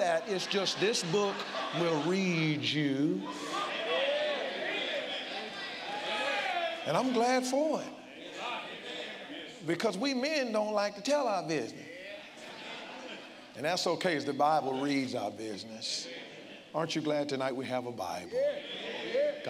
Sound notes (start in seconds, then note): 3.6 congregants call out